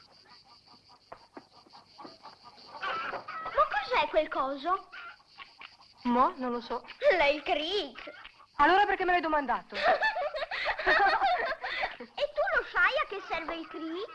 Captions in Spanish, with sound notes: ¿Que es esa cosa? - No sé. - Es el gato. - Entonces, ¿por qué me preguntaste? (EL BEBÉ SE RÍE) <¿Sabes para qué sirve?